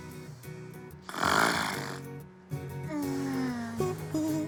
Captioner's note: Maria continues snoring